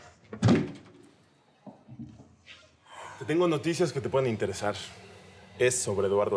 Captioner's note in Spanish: Ruido al cerrar